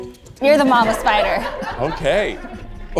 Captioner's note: audience laughs